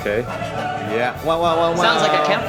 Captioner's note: someone imitates horn